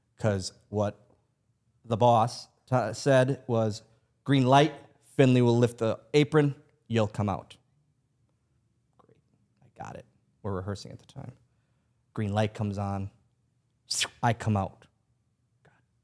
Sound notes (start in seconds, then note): 13.9 imitates zooming